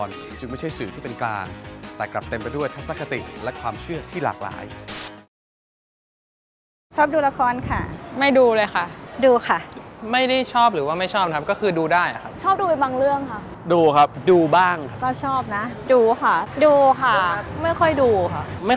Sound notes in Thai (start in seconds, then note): 4.6 เสียงโทรทัศน์